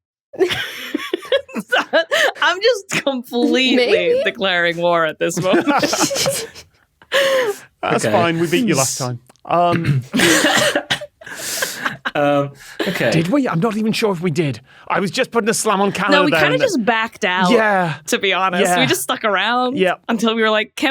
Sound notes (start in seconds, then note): 0.4 laughter builds; 5.2 group laughing; 10.0 guests laughing